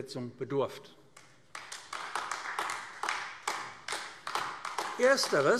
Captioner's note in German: Beifall AfD